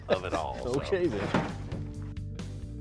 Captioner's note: chuckles